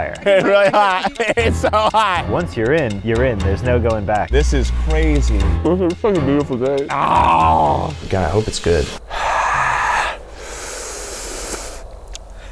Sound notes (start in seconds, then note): 6.8 groaning; 8.9 breathing heavily